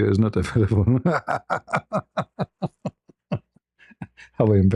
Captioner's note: ketawa